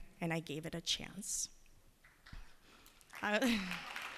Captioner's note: applause; chuckles